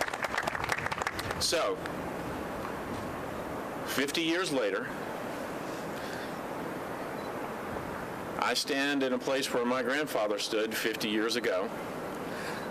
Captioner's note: applause